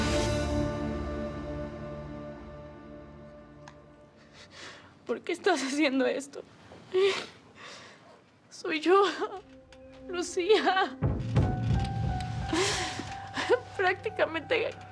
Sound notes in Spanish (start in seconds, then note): 5.3 Sollozos